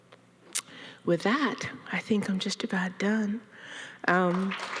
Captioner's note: audience applauding